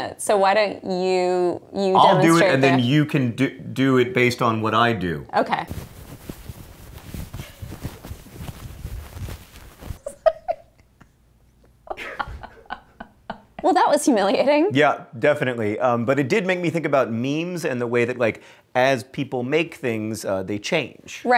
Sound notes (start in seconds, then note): 10.0 giggling